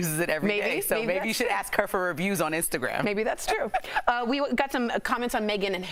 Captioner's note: laughter